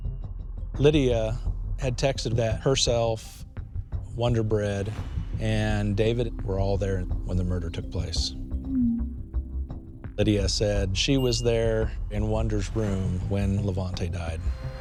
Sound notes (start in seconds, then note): 8.5 tense music; 8.5 texts chiming